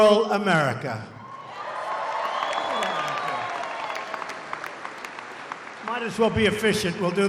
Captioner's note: applause